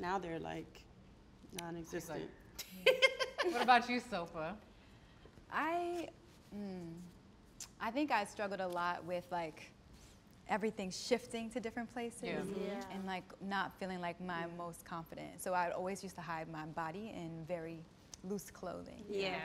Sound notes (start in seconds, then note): 2.7 laughs